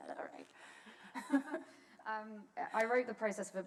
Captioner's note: laughter